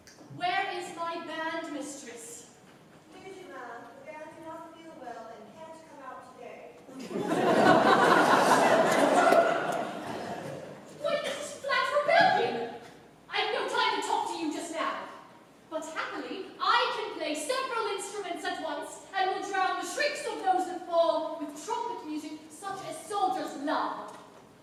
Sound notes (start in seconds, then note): 6.9 laughter